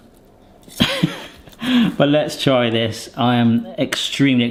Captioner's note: chuckles